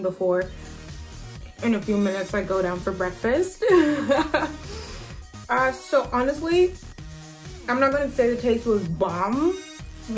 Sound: laughs

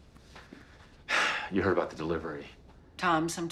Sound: sighs

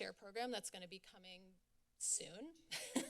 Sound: laughs

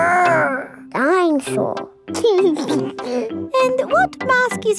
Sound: giggles

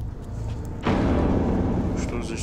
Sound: elevator doors clunk

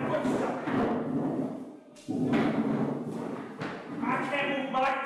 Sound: trash can rattles

